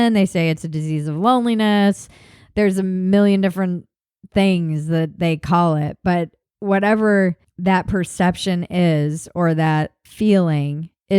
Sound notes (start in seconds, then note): none